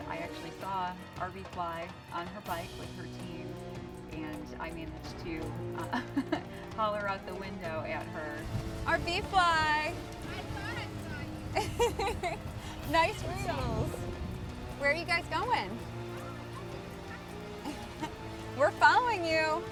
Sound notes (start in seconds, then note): 5.8 laughs; 11.2 laughing